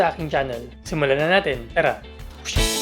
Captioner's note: swoosh